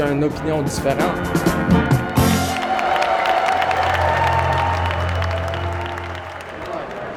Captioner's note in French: applaudissements